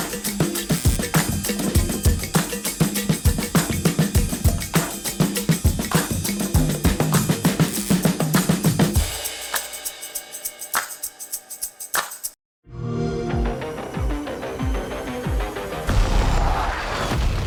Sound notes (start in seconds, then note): 12.2 xbox sound; 12.7 intense music